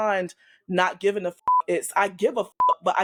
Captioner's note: beep